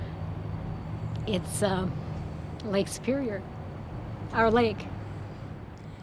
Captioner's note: voice breaking